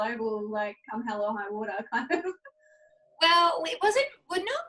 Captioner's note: laughs